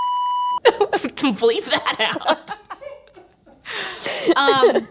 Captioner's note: beep